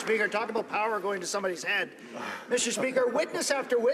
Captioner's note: some Applause